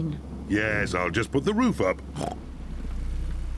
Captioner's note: oinks